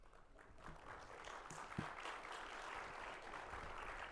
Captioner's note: audience applauding